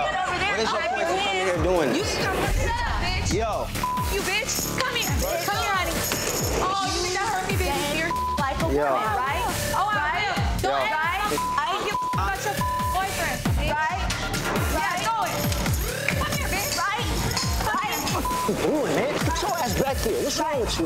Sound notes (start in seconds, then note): 3.7 beep; 7.0 shouting; 8.3 beep; 10.4 shouting; 11.1 beep; 17.8 beep